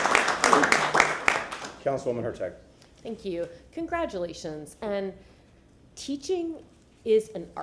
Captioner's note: applause